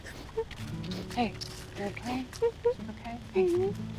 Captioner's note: sobbing